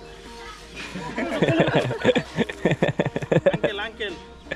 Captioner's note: laughs